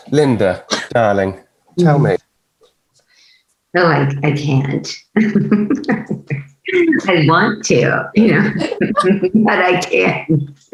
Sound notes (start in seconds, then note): 5.5 giggling